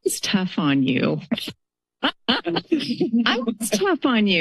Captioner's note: laughter